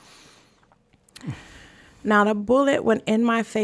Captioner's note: groans softly